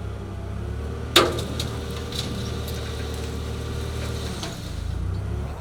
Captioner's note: forklift engine revving